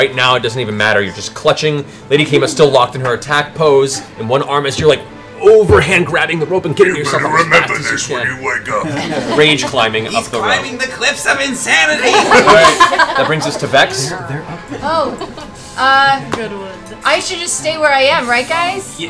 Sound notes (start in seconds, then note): 8.8 laughter; 12.0 laughter